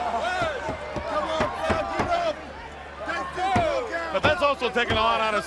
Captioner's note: crowd chatter